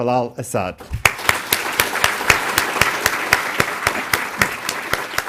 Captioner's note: audience applauding